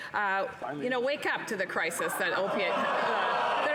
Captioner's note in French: voix de l'interprète